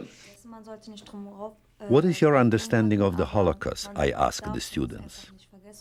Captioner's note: voice-over